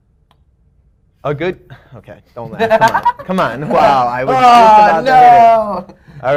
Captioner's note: laughter